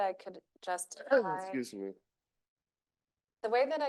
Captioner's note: coughs